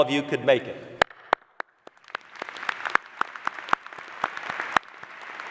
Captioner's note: applause